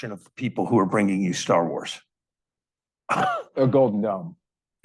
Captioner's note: chuckling